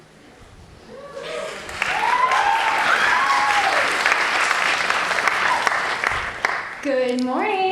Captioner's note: cheering